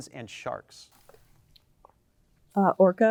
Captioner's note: team whispers